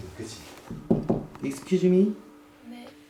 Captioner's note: knock